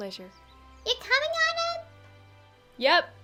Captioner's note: yelling